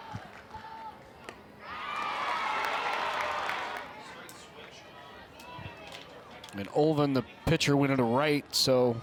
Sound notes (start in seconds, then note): 1.6 crowd cheers